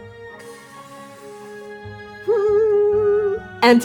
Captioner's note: inhaling; strained, high-pitched humming